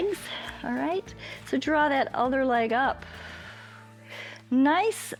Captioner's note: inhales; exhales